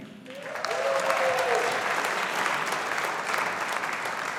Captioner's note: audience applauding